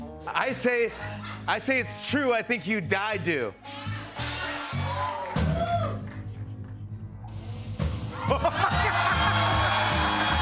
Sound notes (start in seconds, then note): 4.0 cheering; 8.1 laughing